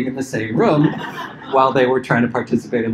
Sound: laughter

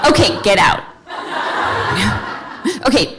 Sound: audience laughing

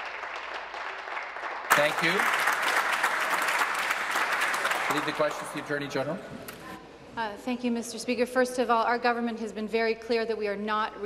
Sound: applause

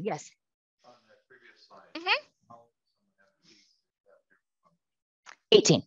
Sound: faintly speaking

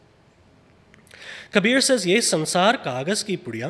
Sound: speaks foreign language

